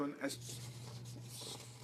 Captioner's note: speaking French